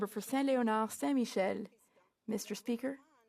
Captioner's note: speaking French